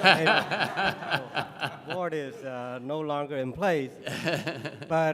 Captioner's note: laughter